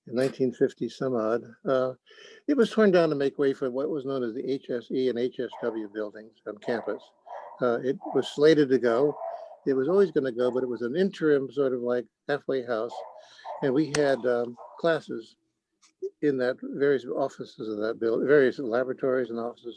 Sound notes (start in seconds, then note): 7.2 dog continues barking